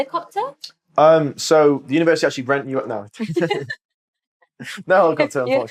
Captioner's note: laughter